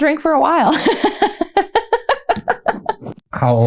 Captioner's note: laughter